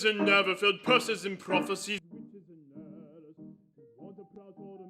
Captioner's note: muted